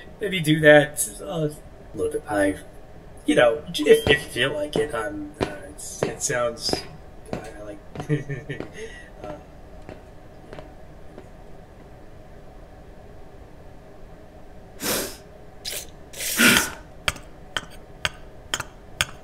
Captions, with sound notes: Maybe do that a little bit- I've... Y'know, if- if you feel like it- um, it's, it sounds kinda like... (Elsi sighs)